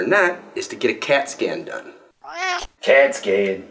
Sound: cat meow

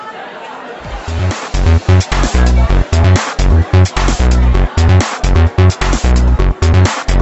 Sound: people chattering; upbeat electronic music

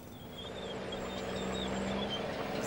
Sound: trucks gasping

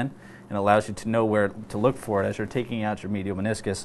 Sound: none

